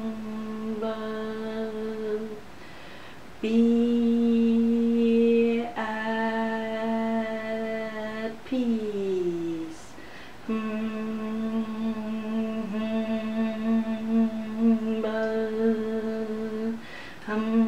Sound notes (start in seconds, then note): 5.9 buzzing sounds; 5.9 humming sounds